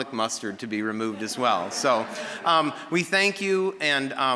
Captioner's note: audience laughing